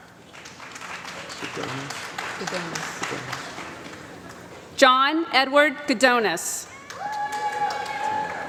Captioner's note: applause